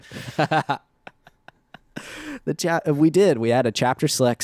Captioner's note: laughing